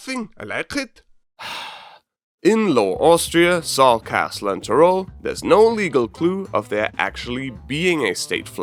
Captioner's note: sigh